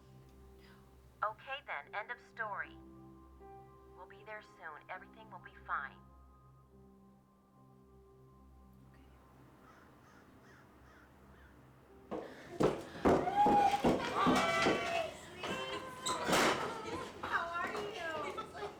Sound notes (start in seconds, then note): 12.0 footsteps echoing